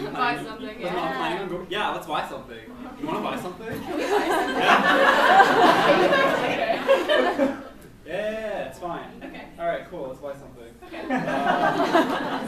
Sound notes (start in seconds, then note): 4.0 laughs; 11.0 laughs